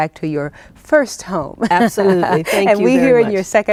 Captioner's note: laughing